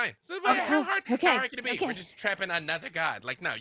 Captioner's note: murmurs